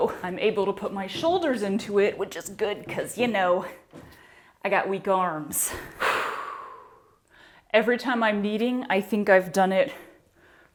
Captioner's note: long exhale